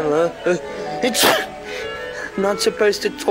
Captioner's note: sneezes